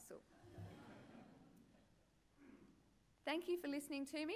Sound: laughter

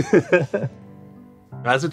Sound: laughing

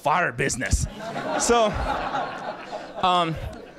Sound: laughter

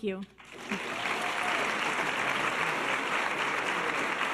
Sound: audience applause

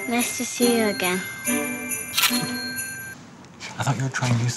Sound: camera shutter clicks

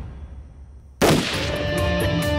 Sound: gun shot

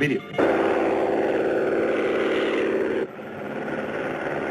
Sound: plane roaring

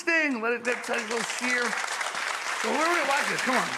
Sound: audience claps

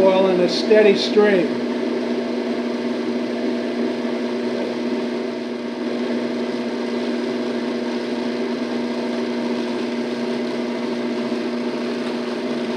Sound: robot coupe whirring

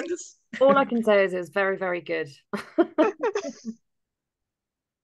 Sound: laughing; laughing

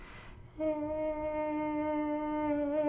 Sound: chanting

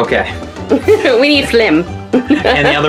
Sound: laughs

